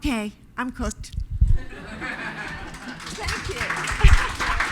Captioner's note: audience applause